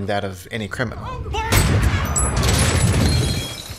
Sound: gunshot

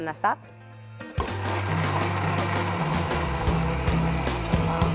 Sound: blender whirring

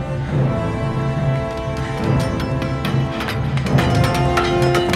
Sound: clanging

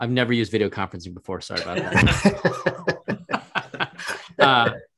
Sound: laughs

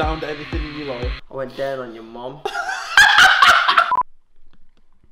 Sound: laughing the crap out of himself

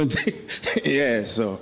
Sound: laughing

